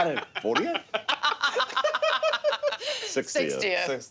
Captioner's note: laughing